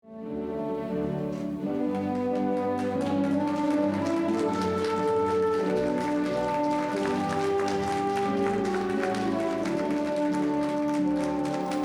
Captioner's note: applause